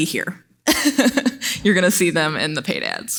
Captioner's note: laughs